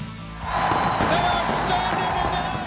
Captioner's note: crowd cheering